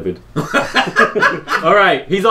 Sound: laughter

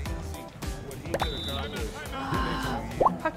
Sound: "Beep!" The whistle sound echoes, but

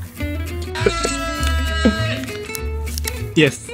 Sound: actor exclaims

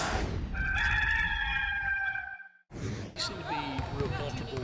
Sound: gamecock screech

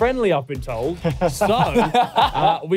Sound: laughing

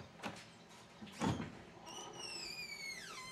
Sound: screeching door opens

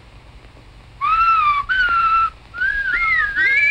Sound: whistling

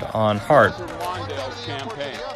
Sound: chatter

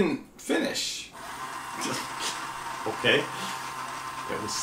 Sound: motor

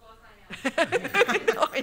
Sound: laughter

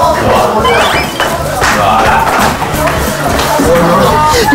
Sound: steps of excitement at the thought of eating

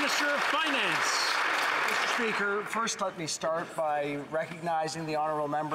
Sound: some Applause

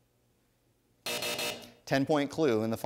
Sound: buzzing

